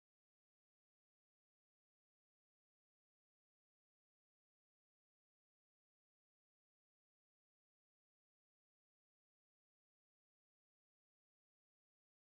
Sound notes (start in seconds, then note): none